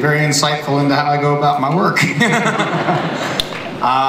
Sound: laughter

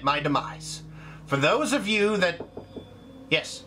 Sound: knock

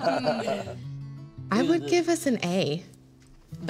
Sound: laughter

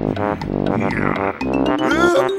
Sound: groan

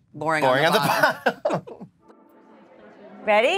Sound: laughs

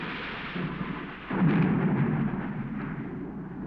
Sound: thunder crashing; clouds rumbling

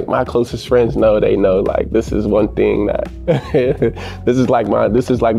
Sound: laughing

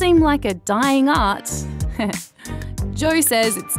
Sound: chuckles

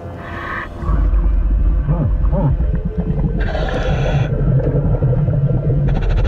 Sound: ominous music continues; water bubbling; mouthpiece hissing

